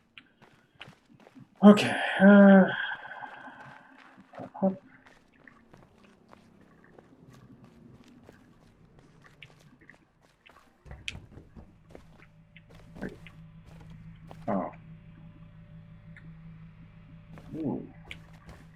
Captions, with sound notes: [sighing] Okay, uh... Hup, hup. Wait... Oh. Ooh.